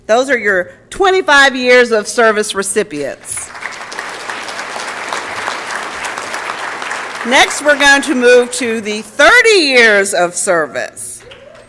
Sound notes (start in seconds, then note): 3.1 applause